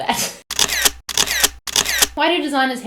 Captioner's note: camera shutter clicking